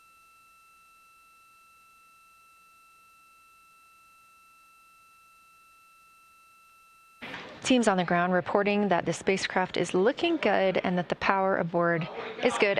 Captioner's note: silence